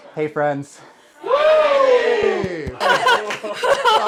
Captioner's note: WHOOs